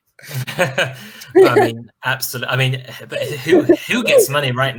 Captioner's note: laughter